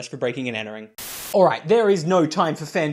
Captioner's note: Static